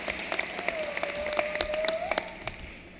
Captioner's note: cheering and applause